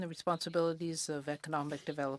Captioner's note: speaking French